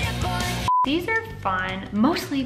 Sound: beep

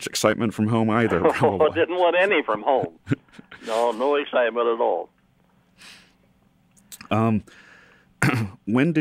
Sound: laughs; laughs

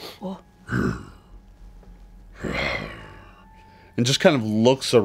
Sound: grunts

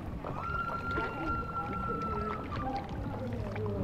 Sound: screaming

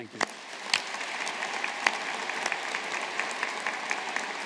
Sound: audience applauding

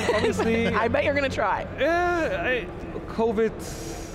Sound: laughs

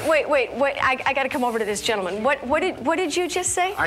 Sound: none

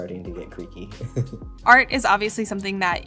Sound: laughing

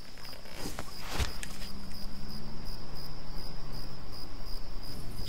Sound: car engine growls

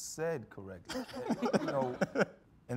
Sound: all laughing

